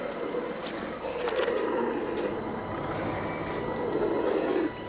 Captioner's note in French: grognement de loup